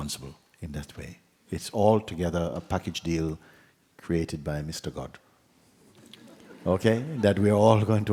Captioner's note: laughter